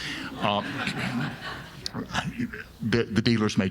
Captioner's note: audience laughing